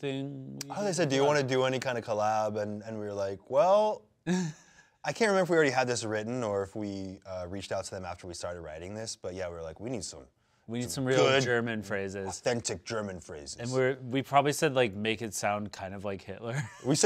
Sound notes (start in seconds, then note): 4.2 laughs